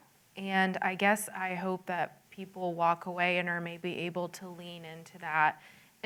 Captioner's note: none